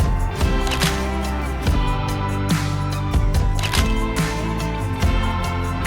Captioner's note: sound of camera taking photos